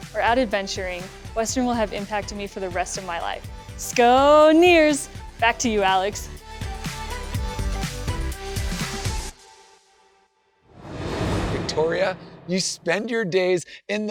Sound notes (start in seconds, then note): 10.7 transition whooshes